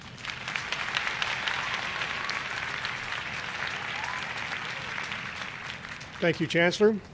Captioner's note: applause